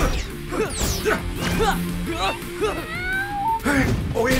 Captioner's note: scared meowing